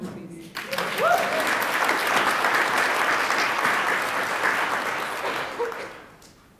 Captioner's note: attendees applaud